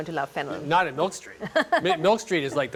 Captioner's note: laughs